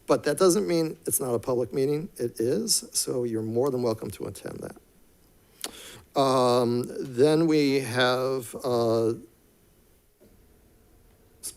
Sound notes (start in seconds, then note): none